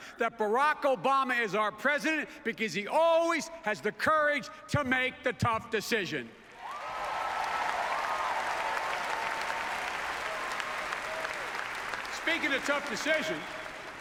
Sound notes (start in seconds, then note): 6.4 applause